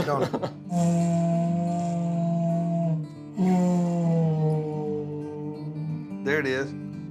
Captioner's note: laughing; horn sound